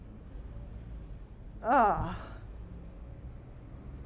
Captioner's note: disgust